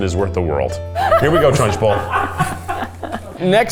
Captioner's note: crew laughing